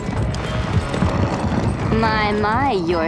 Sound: growling

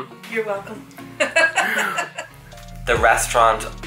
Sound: laughs

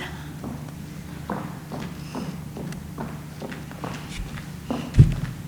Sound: foot steps approaching

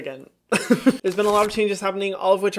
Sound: chuckles

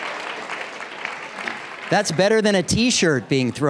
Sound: applause

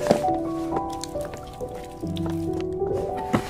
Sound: dripping

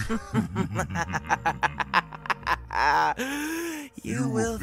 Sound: amused laugh

